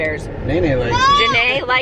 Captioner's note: screams